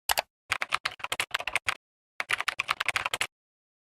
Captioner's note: keyboard clicking